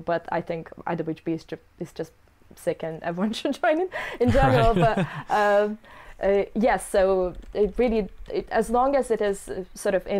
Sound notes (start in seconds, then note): 4.2 laughs